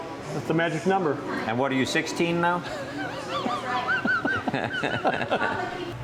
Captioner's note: laughing